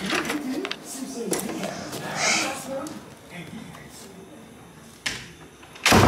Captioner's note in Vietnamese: thở dài